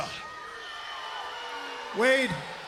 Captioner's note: crowd yelling